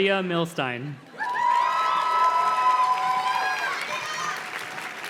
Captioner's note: audience cheers and claps